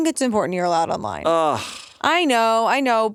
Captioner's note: groans